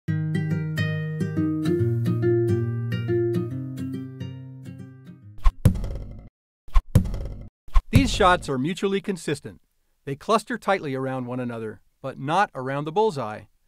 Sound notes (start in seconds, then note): 5.3 sound of arrows landing